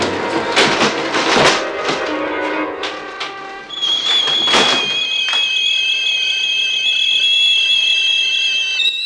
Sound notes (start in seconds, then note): 3.6 teapot whistling